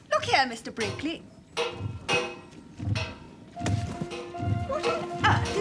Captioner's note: clanging and thumping